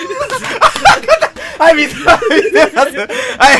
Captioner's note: laugh